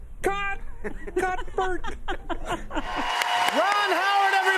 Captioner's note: laughter